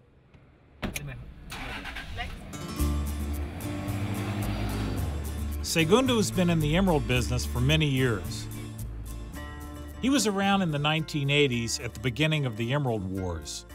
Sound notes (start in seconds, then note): 1.4 engine turns over